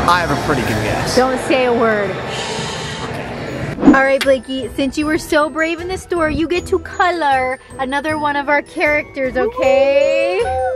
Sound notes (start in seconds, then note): 2.3 shushing